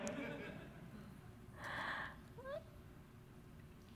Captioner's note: laughter